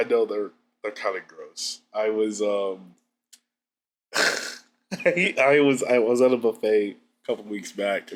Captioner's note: laughs